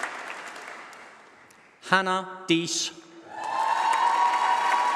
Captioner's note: applause